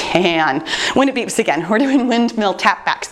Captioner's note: chuckles